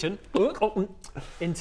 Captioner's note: gulp gulp